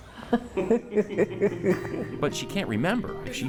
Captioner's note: laughs